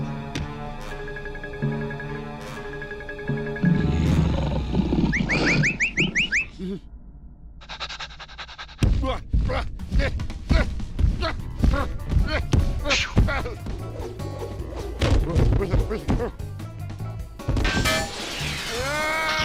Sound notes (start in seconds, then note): 3.6 growling; 5.0 whistling; 7.6 panting; 8.2 grunting; 17.5 metal clank